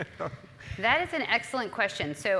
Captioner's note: laugh